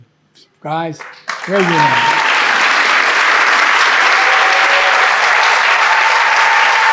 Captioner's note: audience clapping